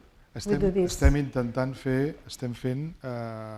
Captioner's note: speaking spanish